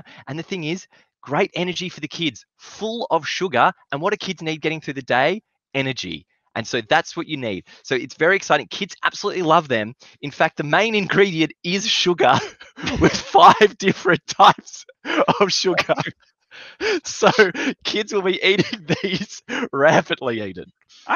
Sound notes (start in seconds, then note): 12.0 laughs